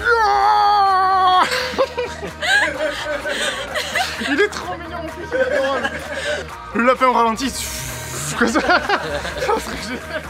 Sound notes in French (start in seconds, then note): 1.3 rire général; 1.4 rires